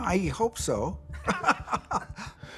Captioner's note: laughs